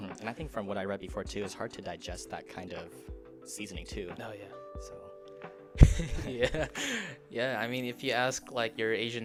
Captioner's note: laughter